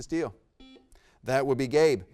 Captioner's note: buzzer beeps